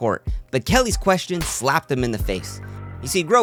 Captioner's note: smack sound